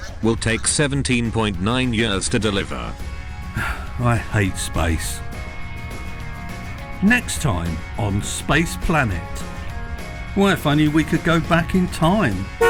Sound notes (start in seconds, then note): 7.2 voiceover